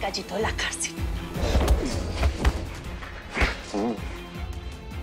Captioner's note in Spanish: Golpes